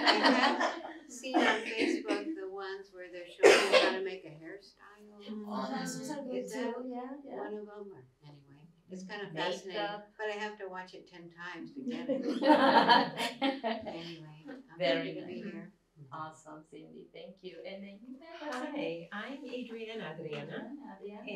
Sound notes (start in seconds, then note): 11.9 laughter